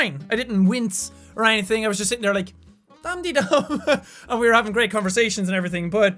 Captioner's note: laughs